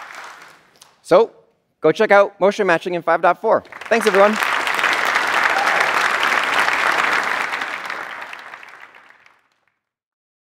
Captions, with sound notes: So go check out motion matching in 5.4. Thanks everyone. [APPLAUSE]